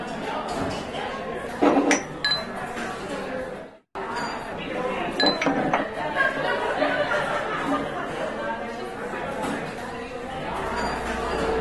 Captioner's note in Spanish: gente hablando en el fondo del bar